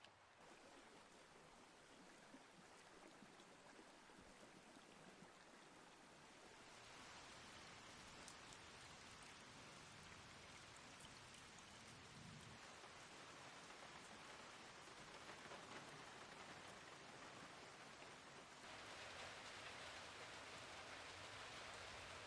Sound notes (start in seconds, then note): 0.2 water flowing over rocks; 6.5 rain falls; 18.5 rain hitting metal roof